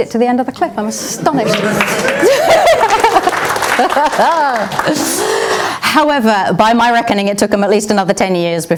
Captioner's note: applause